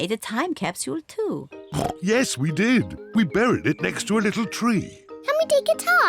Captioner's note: oinks